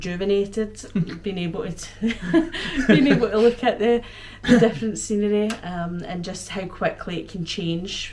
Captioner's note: laughter